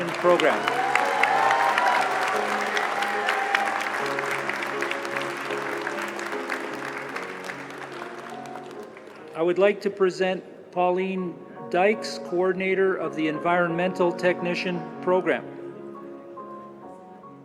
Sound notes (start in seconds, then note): 4.8 applause